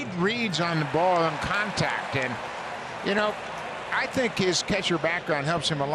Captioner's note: applause